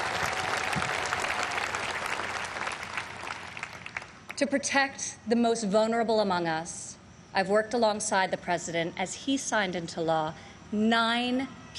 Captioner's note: applause